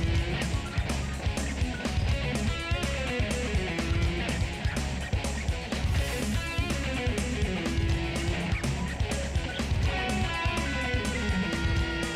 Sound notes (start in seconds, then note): none